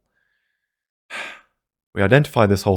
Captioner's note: sigh